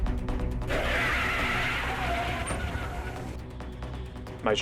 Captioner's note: car tyre screeching